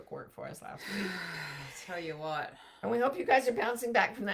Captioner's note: takes a deep breath